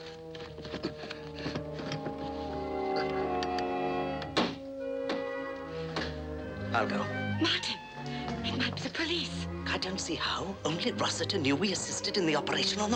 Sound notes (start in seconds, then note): 0.6 suspenseful orchestral music; 4.4 knocking on door